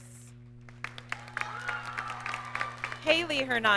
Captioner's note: audience cheers and applauds